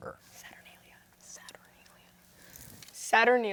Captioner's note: whispering